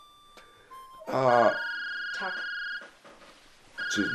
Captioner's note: phone rings, music stops